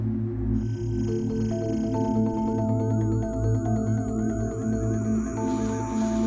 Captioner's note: suspenseful music; electronic warbling